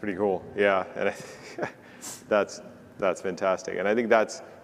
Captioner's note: laughs